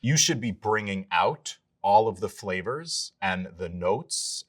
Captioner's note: none